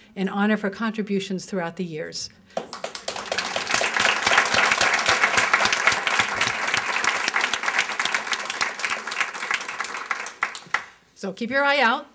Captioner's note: applause